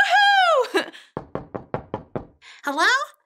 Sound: knocking on door

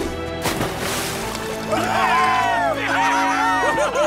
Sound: all cheer

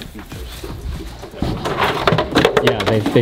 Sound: plastic tubs thudding

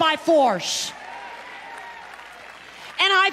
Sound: congregation clapping and cheering

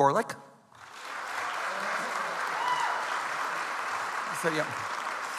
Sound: audience applauds

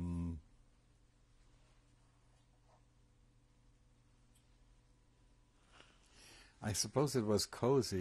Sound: pauses for 3 seconds

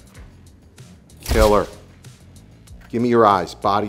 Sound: camera clicking

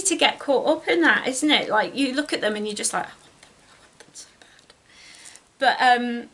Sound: whispers

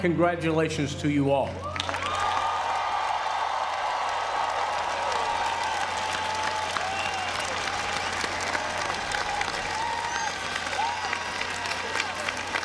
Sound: applause

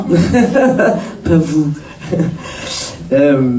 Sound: laughs

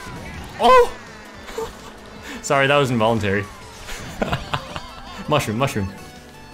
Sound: laughs

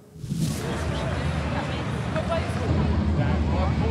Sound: voices, gusts of wind

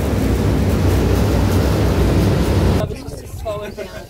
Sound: air blowing

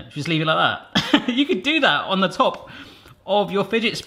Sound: laughing

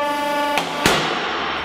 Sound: explosion

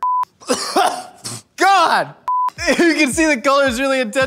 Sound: coughs violently

